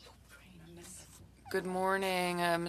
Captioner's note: speaking French